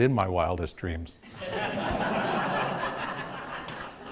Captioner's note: audience laughs